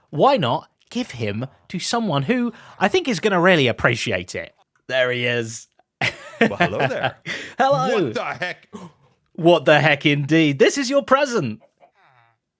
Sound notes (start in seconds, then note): 6.0 laughs; 7.2 gasps